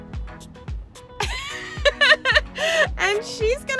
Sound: mom laughs

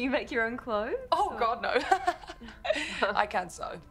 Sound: laughs

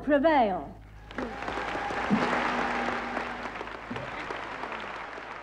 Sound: cheering and clapping

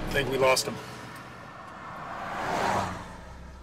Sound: car passing by revving

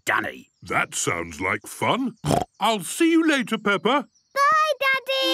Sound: snorting

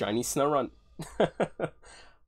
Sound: laughs

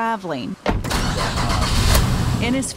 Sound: engine starts

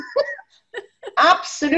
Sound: laughter

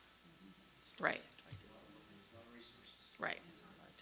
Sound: murmurs

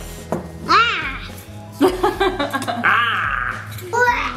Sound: yells; laughs; yells

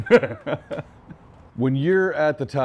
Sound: laughing

